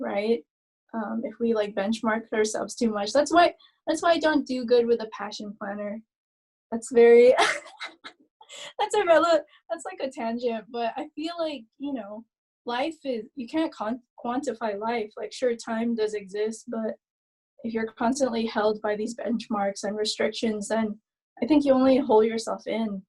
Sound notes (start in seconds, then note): 7.4 laughing